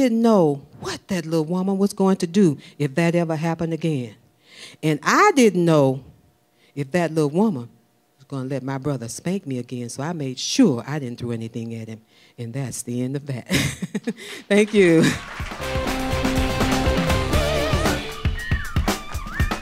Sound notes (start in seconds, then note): 13.4 laughing; 14.4 audience clapping; 15.5 instrumental music